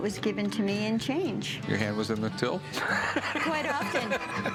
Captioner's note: laughs